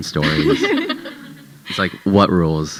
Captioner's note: audience chuckling